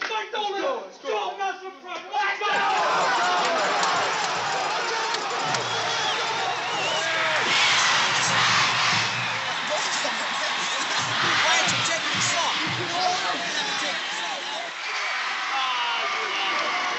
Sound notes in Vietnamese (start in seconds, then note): 6.1 Tiếng la hét; 7.1 Đám đông hò reo